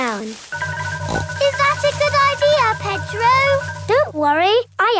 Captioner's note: snorts